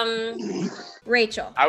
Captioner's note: laughing